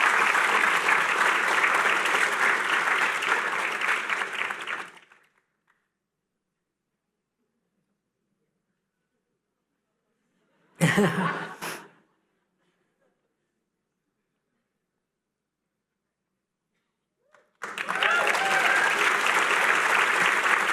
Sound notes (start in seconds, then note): 0.0 applause; 10.8 laughter